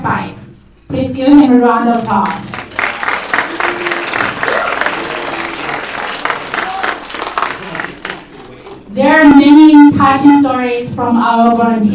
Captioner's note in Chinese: 掌声